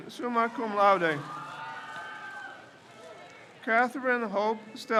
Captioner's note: crowd cheers